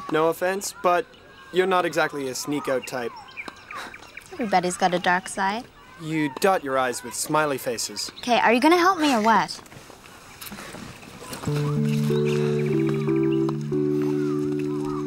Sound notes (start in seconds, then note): 10.0 laughs; 11.4 lighthearted music